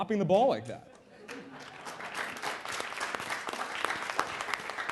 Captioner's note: applause